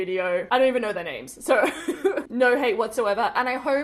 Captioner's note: giggles